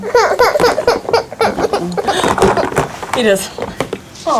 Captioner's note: crying